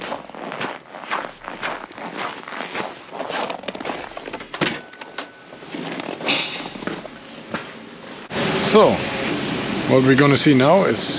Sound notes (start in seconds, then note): 0.0 feet clacks; 4.3 door clicks; 7.6 feet clacks